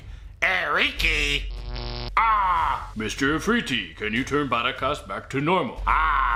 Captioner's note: zaps